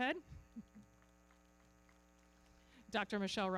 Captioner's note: everybody clapping